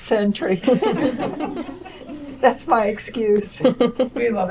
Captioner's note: laughter